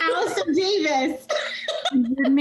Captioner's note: laughing